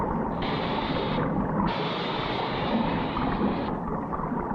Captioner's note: steam hissing